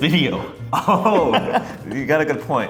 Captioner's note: laughing